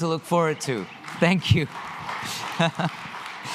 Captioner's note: audience applauding